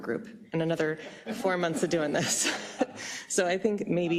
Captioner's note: laugh